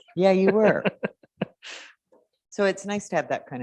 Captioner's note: laughs